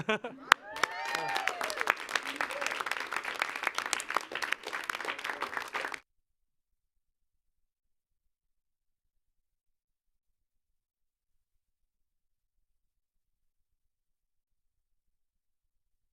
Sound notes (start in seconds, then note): 0.0 laughs; 0.4 clapping